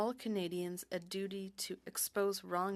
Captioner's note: speaking French